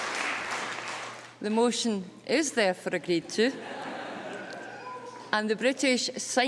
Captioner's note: laughter